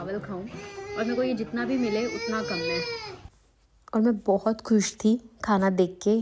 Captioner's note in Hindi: रोने की आवाज़